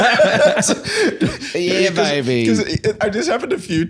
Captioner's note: Austin Powers voice